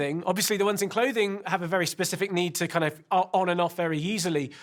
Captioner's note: none